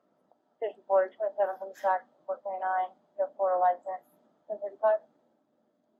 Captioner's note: radio chatter